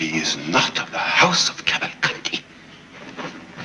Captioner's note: murmur from the courtroom